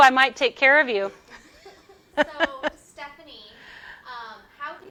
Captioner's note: laughs